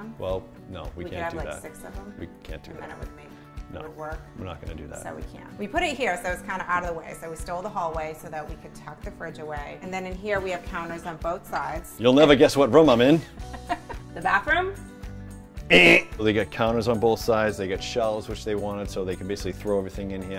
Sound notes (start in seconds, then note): 15.7 laughing; 15.7 buzzer